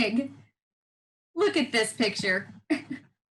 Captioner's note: laughing